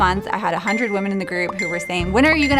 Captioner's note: bell chiming